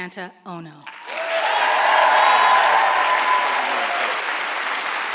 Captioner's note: audience applauds